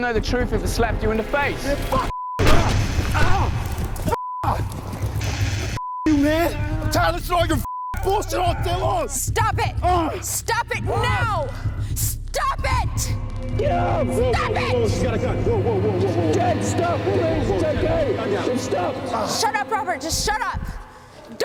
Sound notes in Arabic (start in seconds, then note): 2.7 روبرت همهمات وأنين; 4.2 روبرت يصرخ; 9.7 الرجلان يتذمران ويتأوهان